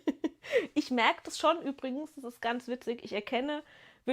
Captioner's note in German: gelächter